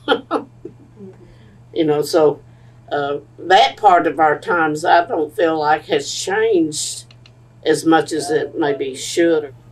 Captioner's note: laughs